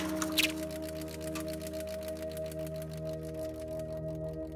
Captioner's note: film reel clicking